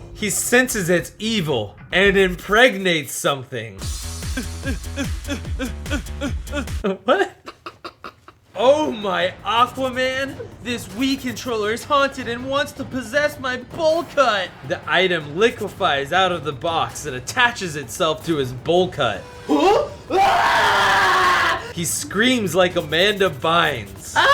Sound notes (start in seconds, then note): 4.4 grunts; 7.4 suppressed laughter